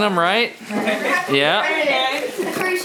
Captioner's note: children chattering